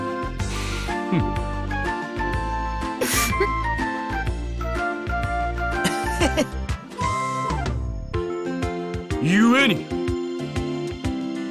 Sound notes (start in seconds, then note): 3.0 sniffle